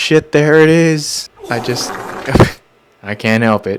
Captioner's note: diarrhea noises